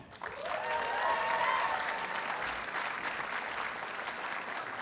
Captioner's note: audience cheers and applauds